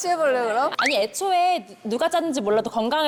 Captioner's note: sound effect of having no choice but to come out